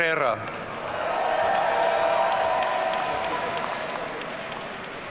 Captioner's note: audience cheering